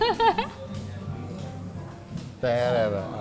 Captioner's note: laughs